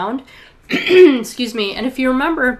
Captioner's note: clears throat